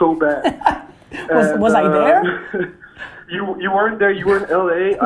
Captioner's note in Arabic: يضحك